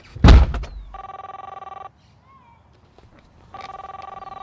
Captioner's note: phone ringing